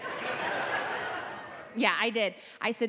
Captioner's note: audience laughing